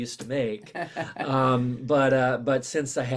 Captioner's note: chuckles